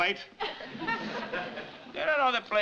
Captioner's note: audience laughing